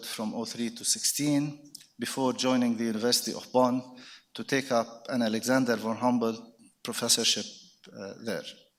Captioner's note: none